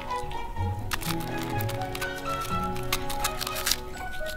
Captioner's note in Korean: 바스러지는 소리